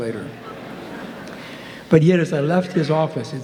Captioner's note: audience laughing